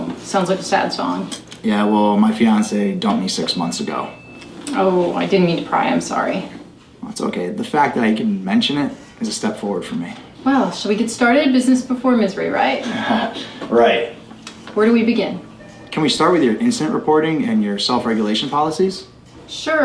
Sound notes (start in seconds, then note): 12.7 laughs